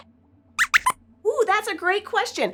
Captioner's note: squeaks squeaks